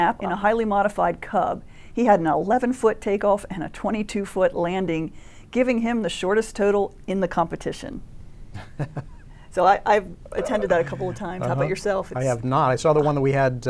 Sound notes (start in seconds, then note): 8.6 laughing